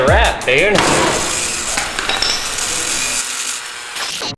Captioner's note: screeching